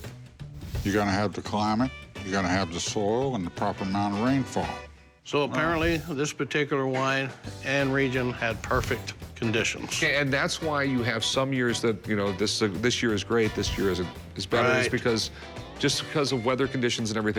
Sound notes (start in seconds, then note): none